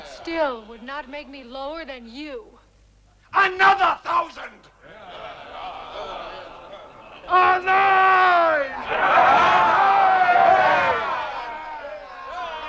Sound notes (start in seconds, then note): 5.3 men clamoring